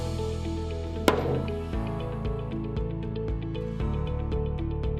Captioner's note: hammer banging